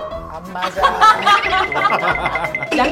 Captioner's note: laughter